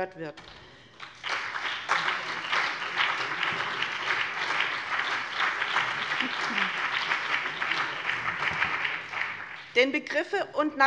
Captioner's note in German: Beifall BÜNDNIS 90/DIE GRÜNEN und CDU